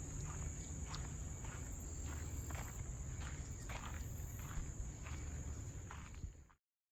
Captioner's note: footsteps continue crunching ground